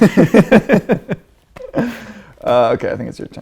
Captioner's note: laughing